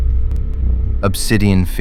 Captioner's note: SFX: high pulse energy